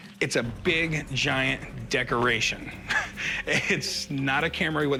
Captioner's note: laughs